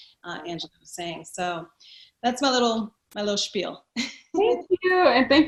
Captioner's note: giggles